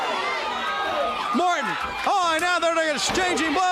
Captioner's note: crowd chatter